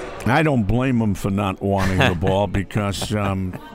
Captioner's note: laughs